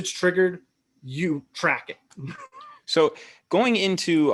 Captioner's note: chuckles